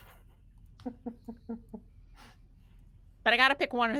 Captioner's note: person chuckling